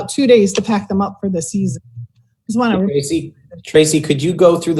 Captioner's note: murmur